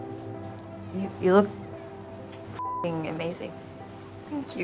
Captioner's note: beep